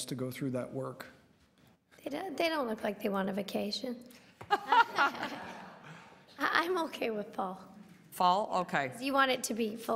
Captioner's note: laughter